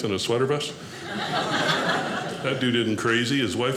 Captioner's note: audience laughing